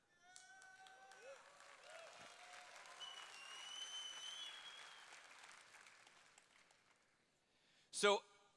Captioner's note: cheers